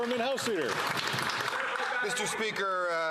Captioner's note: some Applause